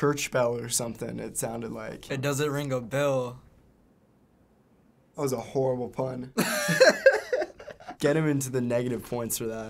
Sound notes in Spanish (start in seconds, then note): 6.4 risas